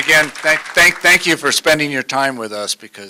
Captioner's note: applause